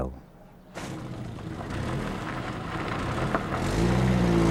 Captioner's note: engine rumbling